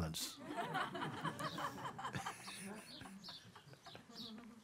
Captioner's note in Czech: smích